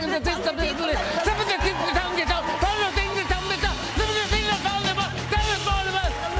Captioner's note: cheers and applause